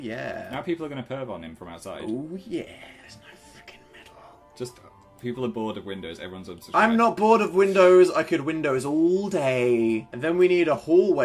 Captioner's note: szepcze